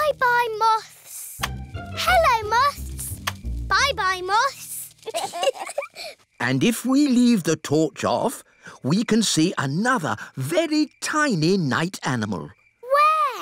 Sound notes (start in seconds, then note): 5.0 both giggle